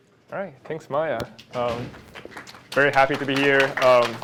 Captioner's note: applause